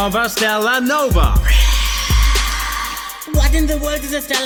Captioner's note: whisper screams